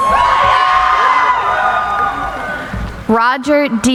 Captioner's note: cheering